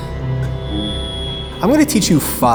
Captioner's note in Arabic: صفارات ردود الفعل